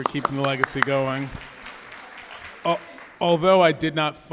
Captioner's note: audience clapping